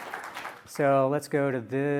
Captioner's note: applause